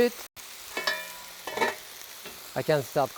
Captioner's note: lid clanging